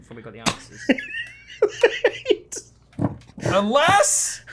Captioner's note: laughs